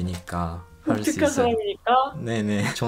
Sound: Korean

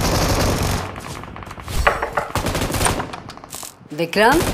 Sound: knocking on door

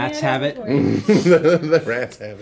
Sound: laughing

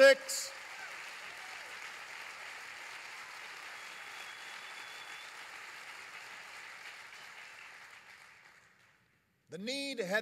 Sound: applause

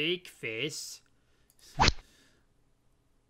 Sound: rod sound

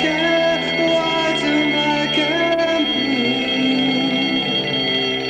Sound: alarm bells ring

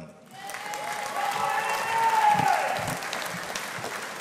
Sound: audience applauding

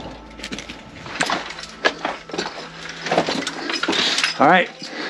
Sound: gear clanking

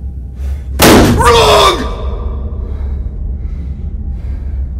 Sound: popping

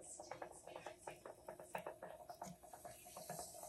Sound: water bubbling

